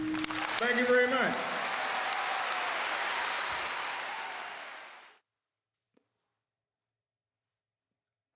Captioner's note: applause